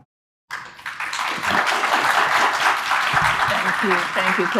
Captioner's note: audience applauding